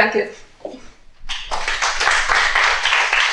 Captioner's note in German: Applaus